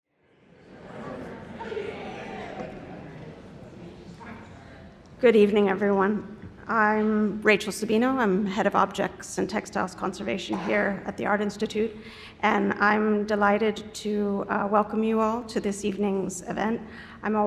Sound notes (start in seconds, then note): 0.2 people chattering